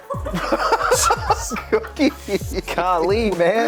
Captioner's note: both laugh